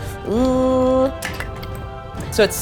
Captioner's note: dice rattling